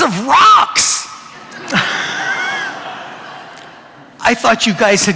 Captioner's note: audience laughing